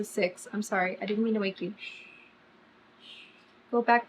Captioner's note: shushes